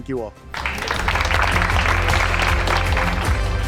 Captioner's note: audience clapping; bright inspiring music